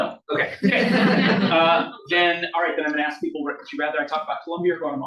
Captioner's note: audience laughs